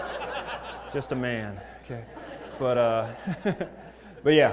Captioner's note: laugh